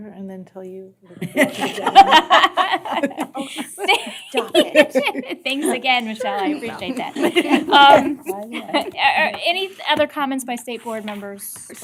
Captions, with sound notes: AND THEN TELL YOU. [ LAUGHTER ] >> OH, STOP IT. >> THANKS AGAIN, MICHELLE. I APPRECIATE THAT. ANY OTHER COMMENTS BY STATE BOARD MEMBERS